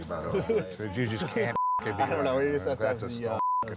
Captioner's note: beep